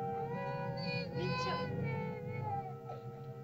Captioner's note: cries; ominous music; Loana's mother speaks in caveman language